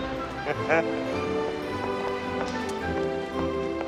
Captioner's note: giddy Chuckle